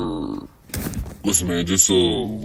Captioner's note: ninja sitting noises